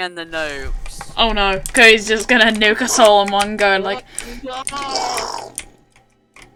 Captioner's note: bkooooom